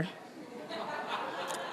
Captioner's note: laughter